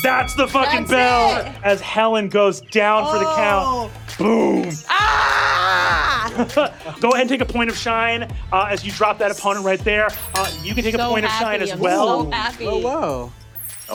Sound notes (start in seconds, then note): 5.0 Bayley roars victoriously